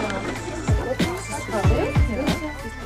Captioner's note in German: Stimmengewirr